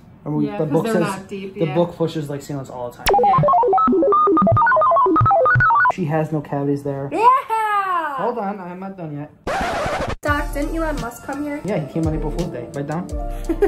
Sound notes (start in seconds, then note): 3.1 electronic chimes; 9.4 record scratches